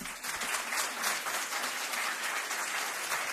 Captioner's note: applause